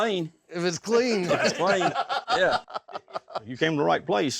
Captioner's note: everyone laughs